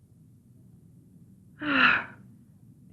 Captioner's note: happy sigh